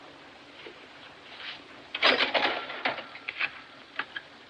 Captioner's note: register Clatters